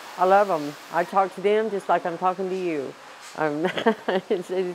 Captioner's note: laugh